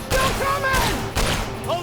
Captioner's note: gunshot